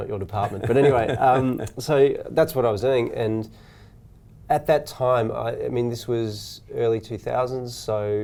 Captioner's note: laughs